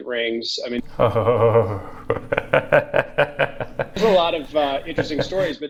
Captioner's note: laughs loudly